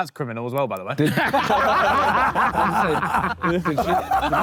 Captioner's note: Sidemen laugh